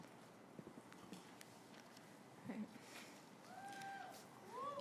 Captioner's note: graduates applauding